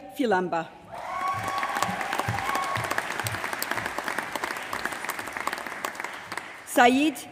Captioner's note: applause